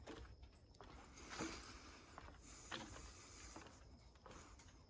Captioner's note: footsteps tapping